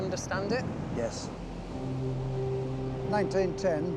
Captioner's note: waves splashing